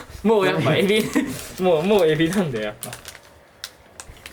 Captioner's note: laughs